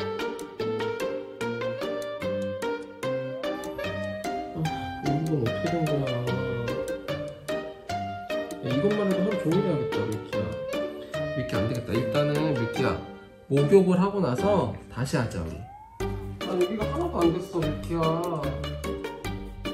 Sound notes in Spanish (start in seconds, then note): 4.3 suspiros